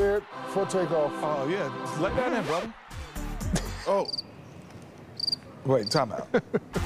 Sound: laughter

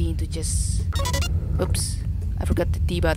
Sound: drone callout sound

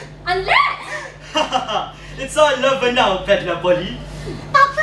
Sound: laughs

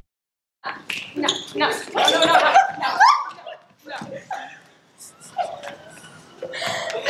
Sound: scream

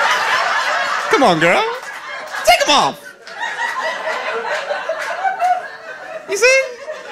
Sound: audience laughing

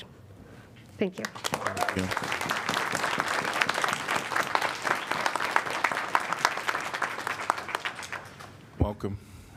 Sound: applause

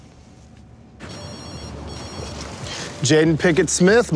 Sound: phone ringing

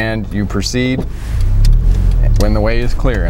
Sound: car engine roaring

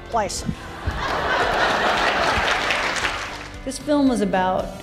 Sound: audience laughs

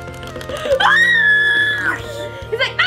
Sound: screams

